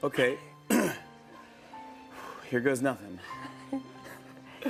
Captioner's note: clears throat; sighs; chuckles